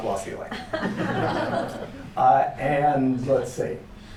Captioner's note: laughter